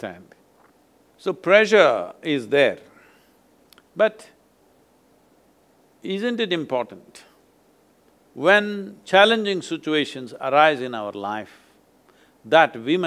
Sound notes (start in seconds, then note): none